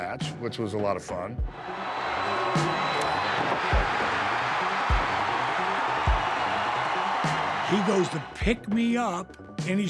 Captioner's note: applause